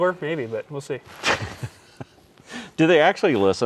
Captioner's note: laughs